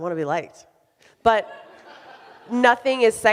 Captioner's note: audience laughs